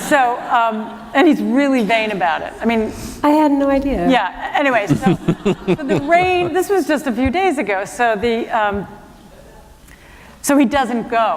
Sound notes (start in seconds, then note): 4.8 laughter